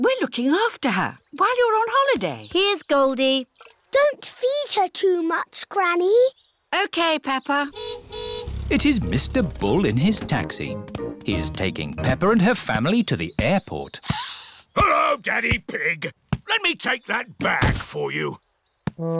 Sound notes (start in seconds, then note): 7.7 car horn honks